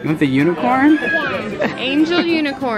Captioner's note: laughs